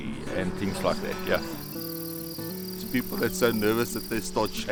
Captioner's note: birds chirping